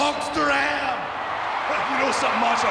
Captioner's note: audience cheering